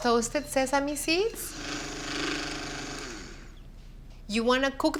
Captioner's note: whirring